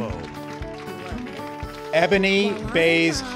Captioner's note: applause